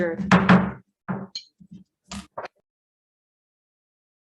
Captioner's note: gavel banging